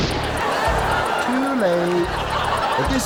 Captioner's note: audience laughs